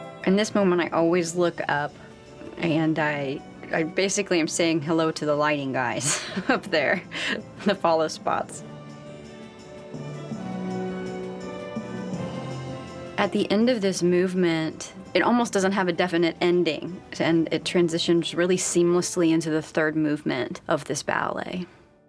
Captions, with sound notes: In this moment, I always look up, and I basically am saying hello to the lighting guys up there... [laughs] The follow spots. [sweeping orchestral music] At the end of this movement, it almost doesn't have a definite ending and it transitions really seamlessly into the third movement of this ballet.